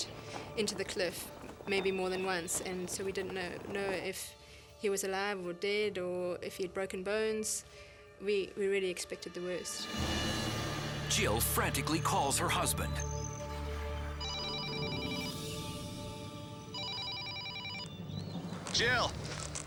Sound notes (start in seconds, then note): 14.2 phone rings